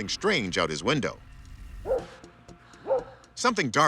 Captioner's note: dog barks